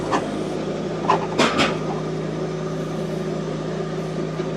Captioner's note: log thuds